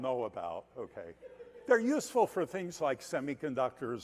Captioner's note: laughter